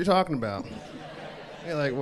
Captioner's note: crowd laughs